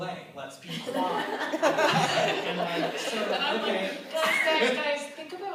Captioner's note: laughter